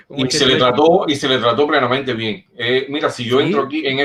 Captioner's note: laughs